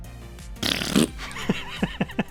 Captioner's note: fart noises; laughter